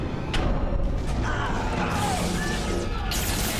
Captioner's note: shouts